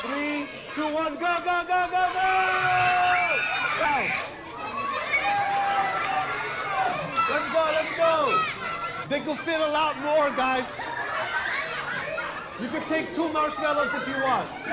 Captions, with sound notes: Go, go, go, go, go! [CHILDREN SHRIEKING EXCITEDLY] Let's go! Let's go! They can fit a lot more, guys. You can take two marshmallows if you want. Let's go!